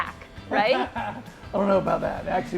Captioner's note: laughing